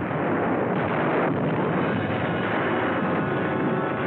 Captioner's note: explosions